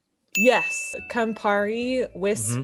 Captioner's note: ding